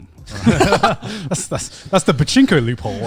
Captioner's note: laughing